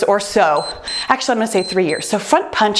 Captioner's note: timer beeps